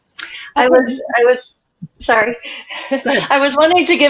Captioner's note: laughs